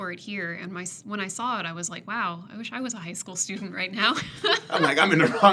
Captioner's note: laughs